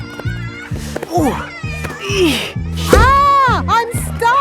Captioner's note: grunting